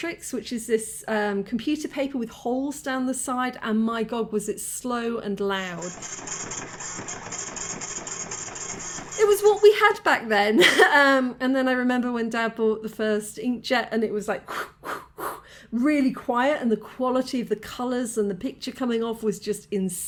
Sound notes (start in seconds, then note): 5.8 printer screeching; 10.6 laughing